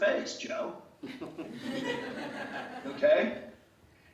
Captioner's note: laughter